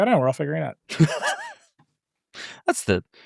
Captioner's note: laughs